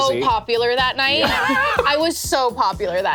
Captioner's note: laughs